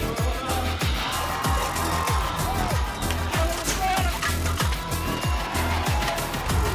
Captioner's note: crowd cheering; upbeat music